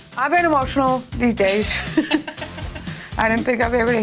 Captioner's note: laughing